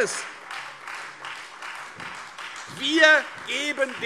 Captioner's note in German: Beifall Freie Demokraten und vereinzelt SPD